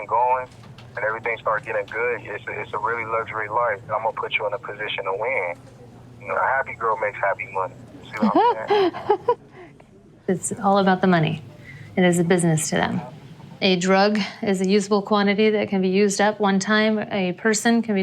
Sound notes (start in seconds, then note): 9.2 laughing